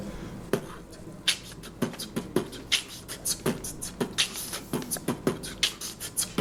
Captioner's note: beat boxing